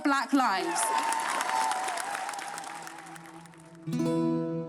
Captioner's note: crowd cheering; acoustic guitar music